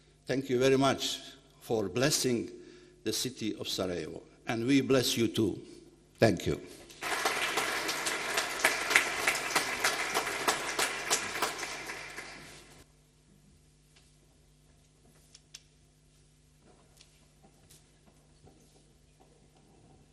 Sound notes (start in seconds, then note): 6.9 applause